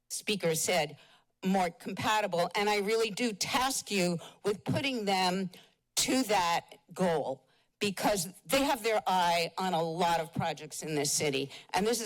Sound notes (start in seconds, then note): none